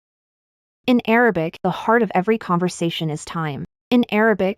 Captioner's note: in Arabic